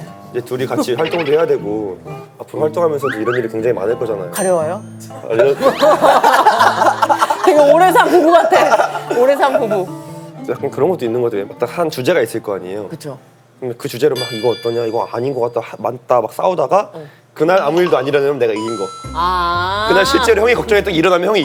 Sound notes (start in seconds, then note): 2.7 scratch scratch